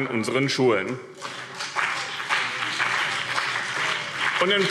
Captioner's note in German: Beifall BÜNDNIS 90/DIE GRÜNEN und CDU